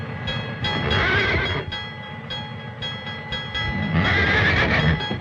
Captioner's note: bell dinging; horse whinnying